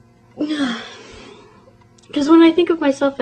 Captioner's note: sigh